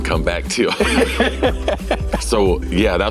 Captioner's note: laughing